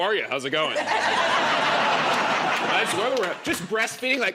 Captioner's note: laughter